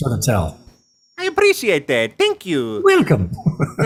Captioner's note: as Mario; both laugh